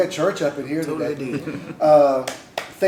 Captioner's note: laughter